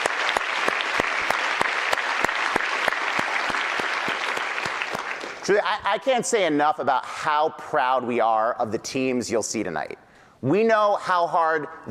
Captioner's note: applause